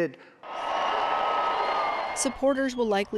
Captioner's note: audience cheering